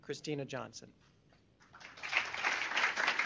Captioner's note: applause